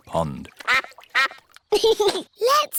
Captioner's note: quacking; giggles